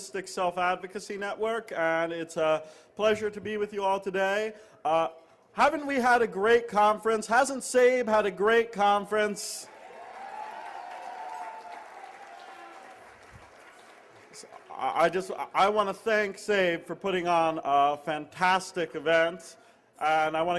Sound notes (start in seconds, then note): 9.6 cheers and applause